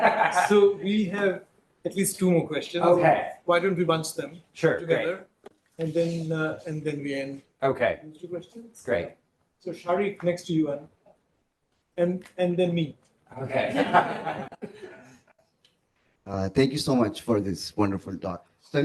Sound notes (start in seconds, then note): 13.5 laughter